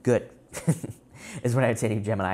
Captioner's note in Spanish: Risas